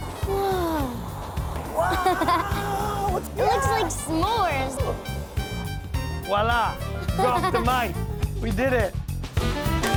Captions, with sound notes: -Whoa! [ Chuckles ] -Whoa! -It looks like s'mores! -Voilà! Drop the mic! We did it!